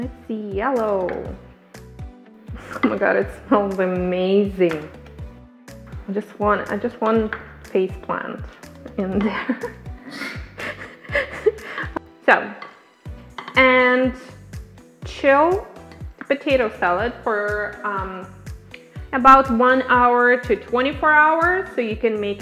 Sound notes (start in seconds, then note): 9.1 laughing; 9.2 laughs